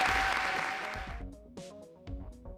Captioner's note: applause